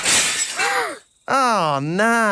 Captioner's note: shatters